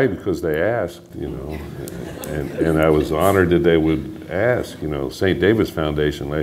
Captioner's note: laughter